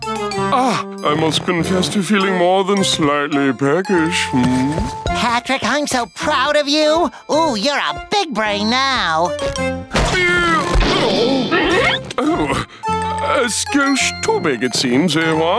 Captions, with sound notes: Ah, I must confess to feeling more than slightly famished. Patrick, I'm so proud of you. Oh, you're a big brain now. [grunting] Oh, a smidge too big it seems, eh?